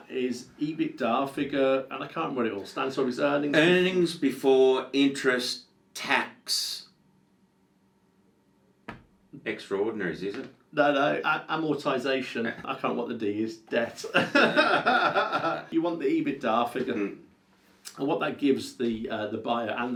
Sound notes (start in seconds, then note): 13.9 both laugh